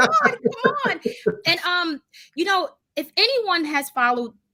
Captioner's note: laughs softly